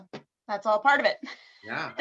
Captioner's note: laughs